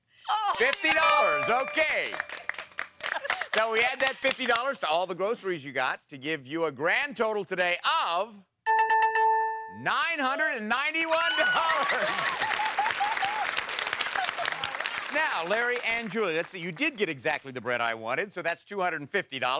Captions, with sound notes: $50, okay! (horn blows) (giggling) So we add that $50 to all the groceries you got to give you a grand total today of-- (dinging) $991! (chuckles) (shrieking) Now Larry and Julie, let's see, you did get exactly the bread I wanted, so that's $250.